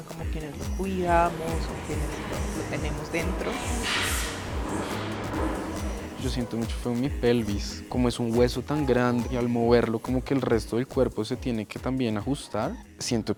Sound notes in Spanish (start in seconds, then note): 6.3 Se escuchan susurros